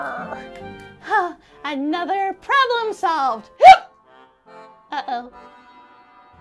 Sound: hiccups

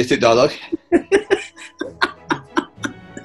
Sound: laughing

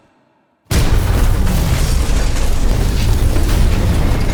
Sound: tumultuous rattling

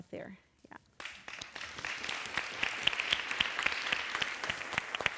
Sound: applause

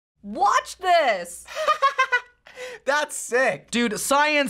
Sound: laughs

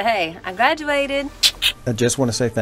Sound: clicks tongue

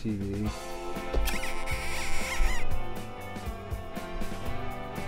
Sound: upbeat music begins; cartoon kissing sound

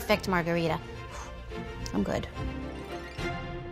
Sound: exhales; quirky orchestral music

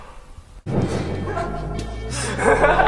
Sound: laughter

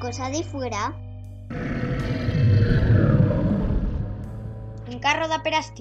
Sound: snarl

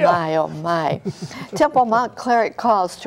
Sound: laughter

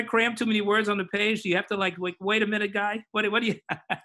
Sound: laughs

